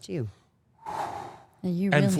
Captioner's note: Paul exhaling deeply